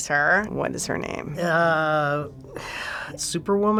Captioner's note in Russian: вздыхает